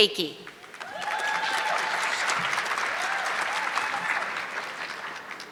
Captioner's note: audience clapping